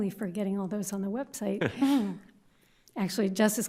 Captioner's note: chuckles